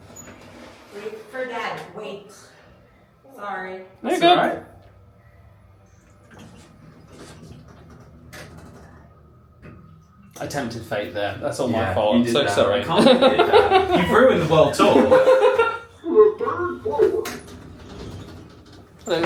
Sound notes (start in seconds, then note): 5.6 elevator doors close; 15.5 laughs